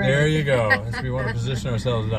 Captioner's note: laughs